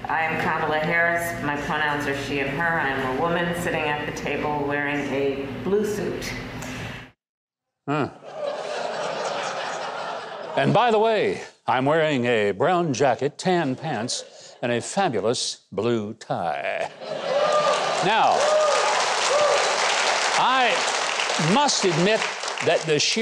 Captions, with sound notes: - I am Kamala Harris. My pronouns are she and her. I am a woman sitting at the table wearing a blue suit. - Huh. (crowd laughing) And by the way, I'm wearing a brown jacket, tan pants and a fabulous blue tie. (crowd laughing) (crowd cheering) Now I must admit that the sheer nonsense